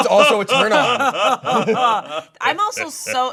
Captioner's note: group laughing